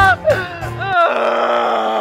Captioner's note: whale noises